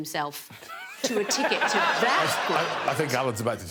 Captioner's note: all laughing